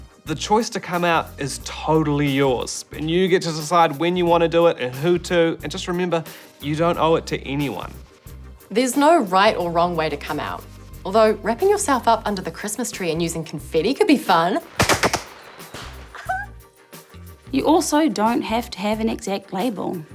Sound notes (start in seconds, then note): 14.7 pop!; 14.8 fireworks whistle, pop; 16.1 exclaims